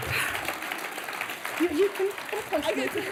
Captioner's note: applause